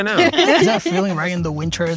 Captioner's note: all laugh